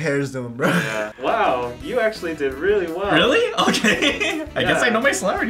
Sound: laughs

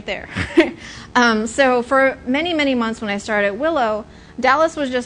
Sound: laughs

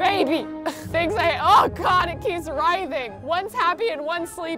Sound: groaning

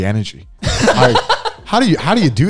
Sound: men laughing

